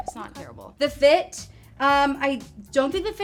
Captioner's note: emojis popping